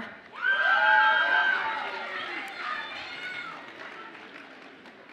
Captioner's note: audience applauds and cheers